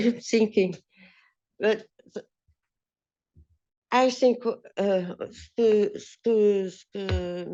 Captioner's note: speaking french